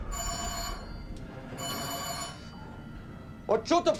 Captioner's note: alarm